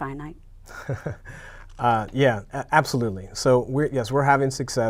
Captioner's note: laughs